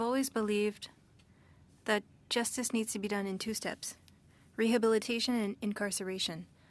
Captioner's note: speaking French